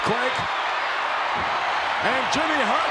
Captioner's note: crowd shout